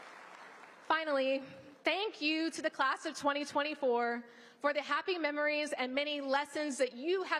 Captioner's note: applause